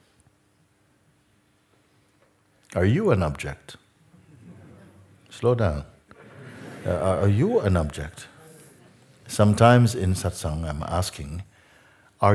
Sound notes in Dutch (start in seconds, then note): 6.1 gelach